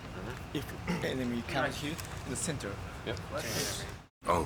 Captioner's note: in English